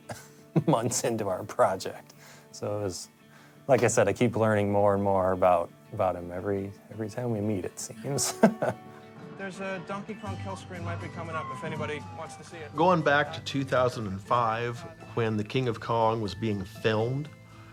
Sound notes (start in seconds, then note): 0.5 chuckles; 8.1 chuckles